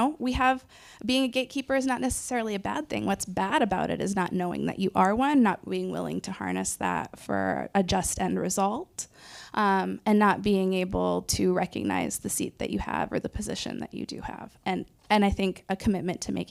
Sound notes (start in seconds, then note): none